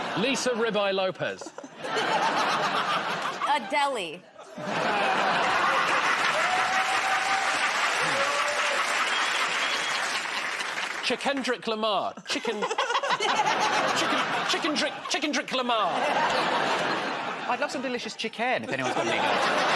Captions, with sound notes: -Lisa Ribeye Lopez. [ Laughter ] -A-deli. [ Laughter ] [ Cheers and applause ] -Chicken-drick Lamar. Chicken... Chicken -- Chicken-drick -- Chicken-drick Lamar. -I'd love some delicious chick-en, if anyone's got any.